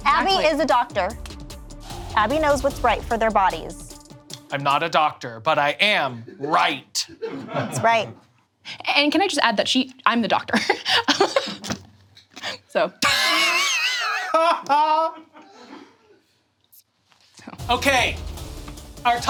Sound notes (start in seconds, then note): 14.5 Abby laughing